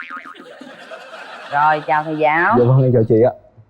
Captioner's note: laughs